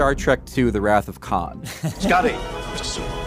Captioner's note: laughs